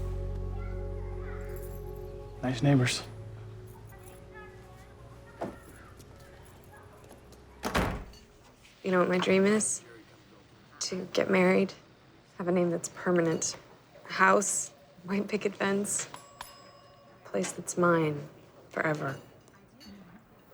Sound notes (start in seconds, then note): 16.0 order bell dings